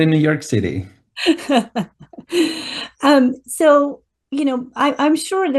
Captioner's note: laughs